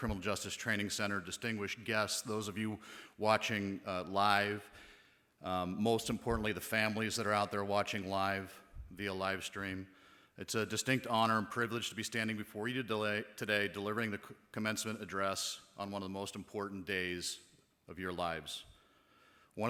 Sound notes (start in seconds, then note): none